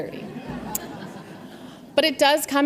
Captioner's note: audience laughs